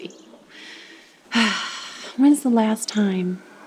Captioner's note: chuckles; sighs